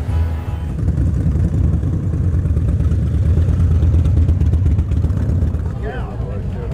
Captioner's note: bright music; motorcycles whirring